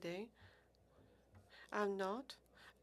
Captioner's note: speaking French